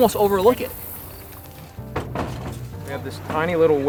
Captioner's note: canoe clattering